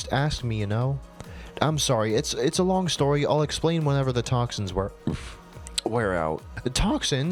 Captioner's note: burps